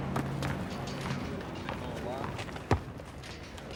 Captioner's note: none